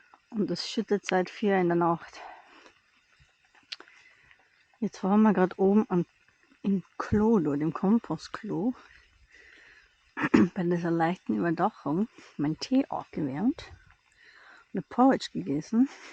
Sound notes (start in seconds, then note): 10.2 clears throat